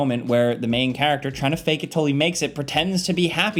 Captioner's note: none